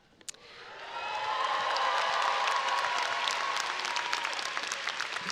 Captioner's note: audience cheering and applauding